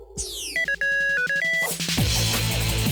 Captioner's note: phone rings; energetic music